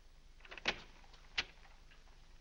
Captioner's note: door opens